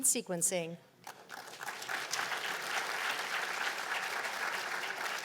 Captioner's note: applause